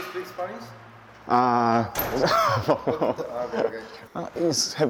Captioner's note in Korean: 웃음